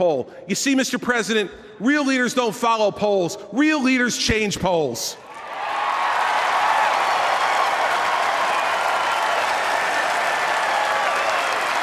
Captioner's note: applause